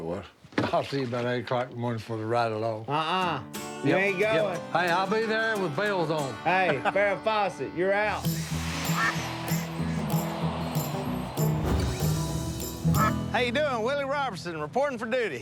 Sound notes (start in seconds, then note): 8.7 duck quacks; 9.8 mellow music playing